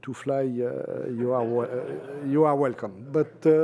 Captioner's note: laughter